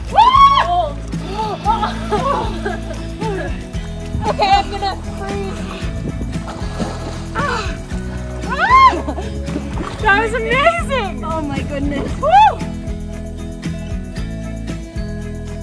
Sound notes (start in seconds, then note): 0.0 screaming; 8.4 yells